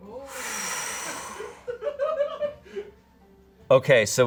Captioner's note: exhales sharply; audience laughing